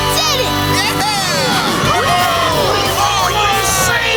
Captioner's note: cheering